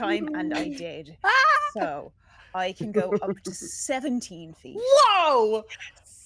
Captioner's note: exclaims